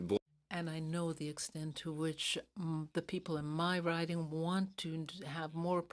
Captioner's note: speaking French